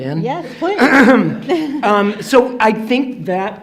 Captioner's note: throat clearing; laughing